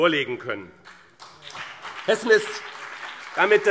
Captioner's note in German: Beifall BÜNDNIS 90/DIE GRÜNEN